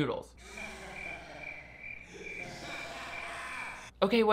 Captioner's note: crickets chirping; distorted laughing